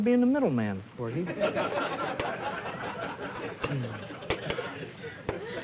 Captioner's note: laughter